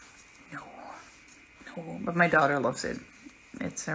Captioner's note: whispering: No...No